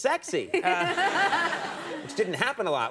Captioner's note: audience laughing